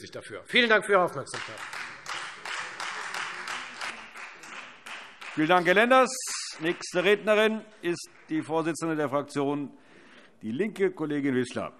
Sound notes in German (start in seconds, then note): 1.2 Beifall Freie Demokraten